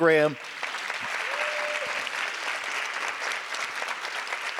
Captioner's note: audience applause